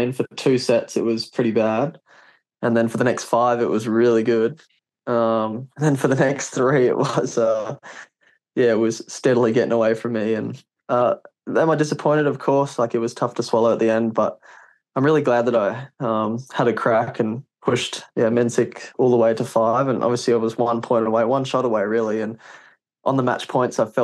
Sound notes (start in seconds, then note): 5.2 laughs